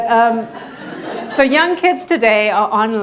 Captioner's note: audience laughing